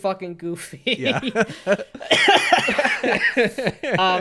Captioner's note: laughs